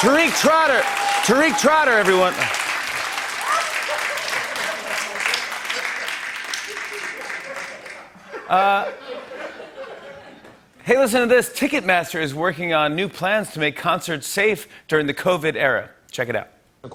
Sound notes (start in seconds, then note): 0.0 cheering and applause; 2.7 laughter and applause